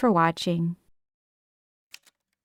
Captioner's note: typewriter sounds